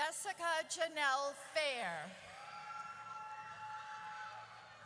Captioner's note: audience cheers